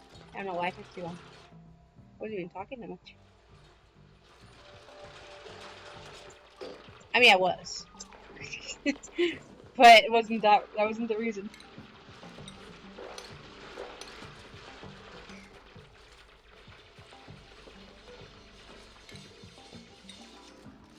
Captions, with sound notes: I don't know why I took long...I wasn't even talking that much. I mean I was.....(laughter) but wasn't that wasn't the reason.